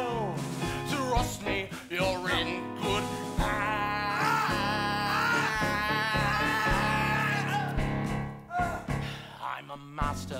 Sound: yells and struggles

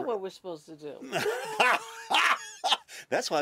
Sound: laughter

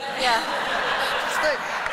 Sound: laughter

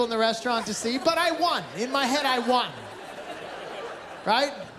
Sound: laughter

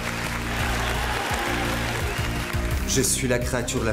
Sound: cheering

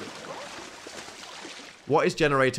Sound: water splashes

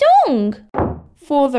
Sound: slam!

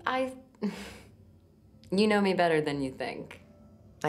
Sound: chuckles

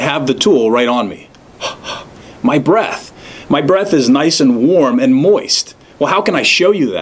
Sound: puffs out breath

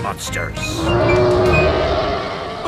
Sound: roaring

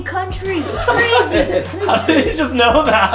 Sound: laughing

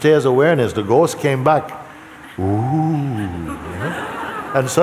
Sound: laughter

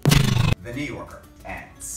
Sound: fan sound

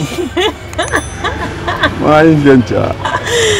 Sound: laughing

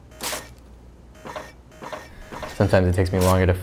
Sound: page rips

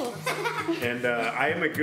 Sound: laughing

